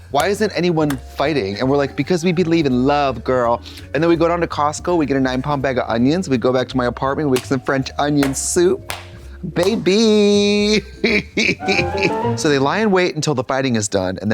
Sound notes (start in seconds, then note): 8.1 Katya crinkles and claps; 11.6 bright chime